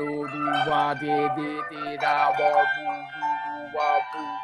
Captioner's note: bell ringing